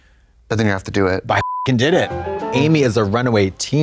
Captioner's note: beep